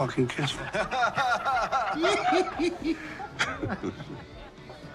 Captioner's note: all laughing